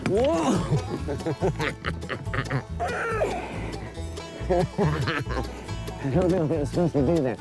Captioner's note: laughs